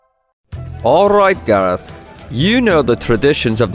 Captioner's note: tavern ambience